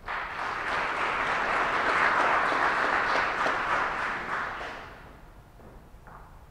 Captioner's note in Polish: oklaski